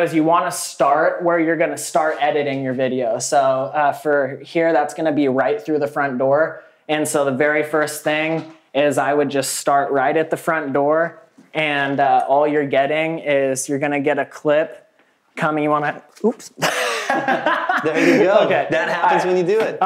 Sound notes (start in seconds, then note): 16.6 all laugh